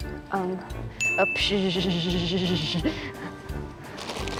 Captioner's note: water Sound Effect